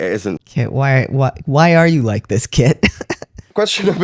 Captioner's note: laughter